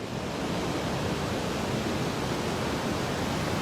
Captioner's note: waves rustling